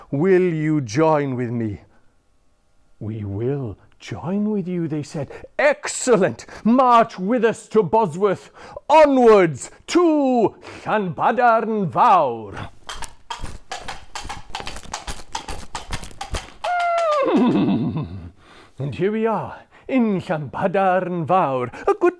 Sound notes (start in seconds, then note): 12.5 horses hooves